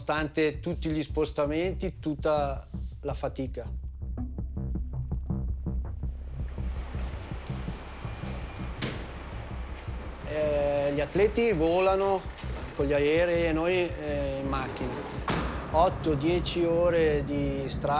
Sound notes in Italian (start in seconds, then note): 4.1 musica coinvolgente; 11.0 parla in italiano